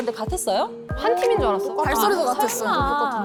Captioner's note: obvious sound effect